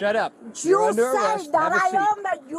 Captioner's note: speaking foreign language